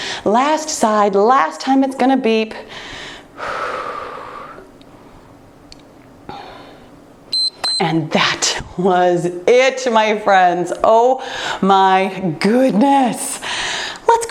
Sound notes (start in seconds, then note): 7.3 timer beeps